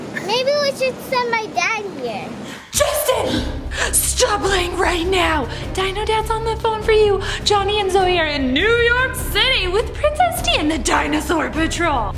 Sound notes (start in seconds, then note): 3.0 gasps